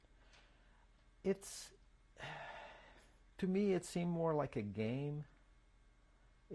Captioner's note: sighs